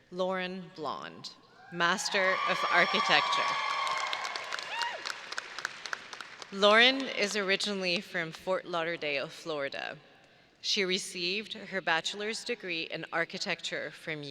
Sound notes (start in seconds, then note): 2.6 audience applauding and cheering